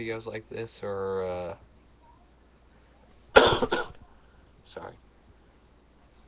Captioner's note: coughs